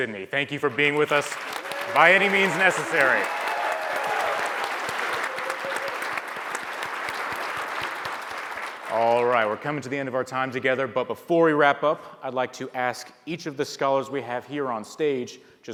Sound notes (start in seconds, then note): 3.4 audience applauds